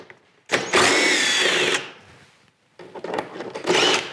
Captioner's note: drill whirring